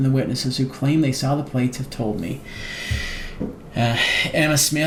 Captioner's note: deeply sighs